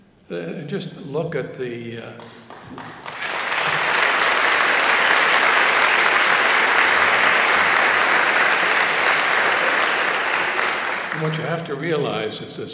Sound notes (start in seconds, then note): 2.2 applause